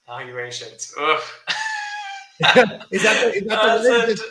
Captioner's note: laughs